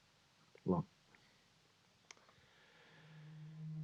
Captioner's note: sighs